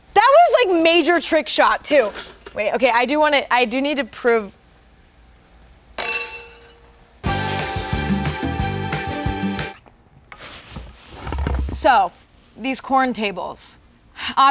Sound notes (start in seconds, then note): 6.0 ping pong clinks cups; 7.3 fantastical music